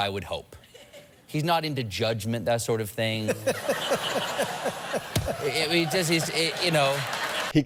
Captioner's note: Audience and Letterman laugh